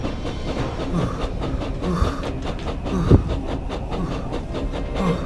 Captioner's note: James panting